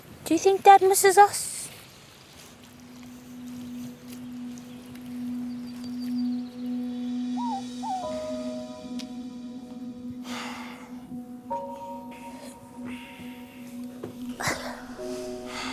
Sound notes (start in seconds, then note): 7.3 bird coos; 10.1 sighs